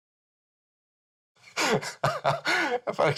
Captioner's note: Nick laughing